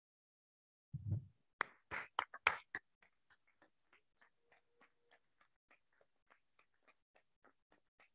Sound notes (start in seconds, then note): 1.6 School Board claps